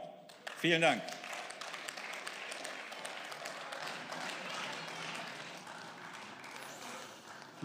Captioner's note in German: Beifall